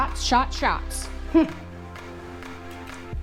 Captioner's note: satisfied mmph